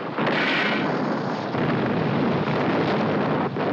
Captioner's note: explosions continue